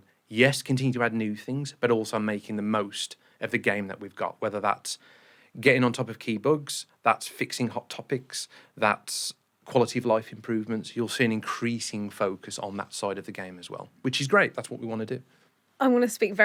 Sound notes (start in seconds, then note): none